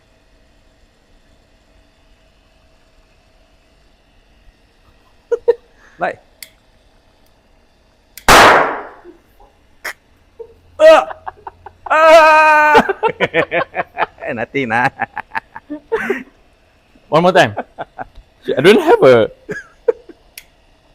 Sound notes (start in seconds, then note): 8.3 explosion; 12.6 laughter